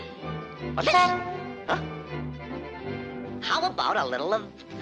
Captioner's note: cymbal crashes; horn honks